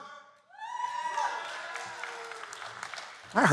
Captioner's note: cheers and Applause